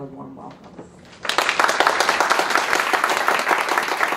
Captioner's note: applauding